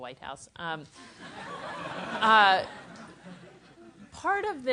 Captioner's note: laugh